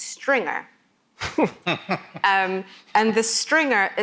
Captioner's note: laughs